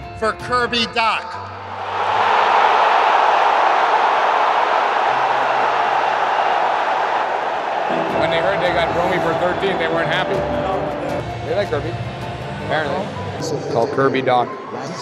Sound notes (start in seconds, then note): 1.6 cheers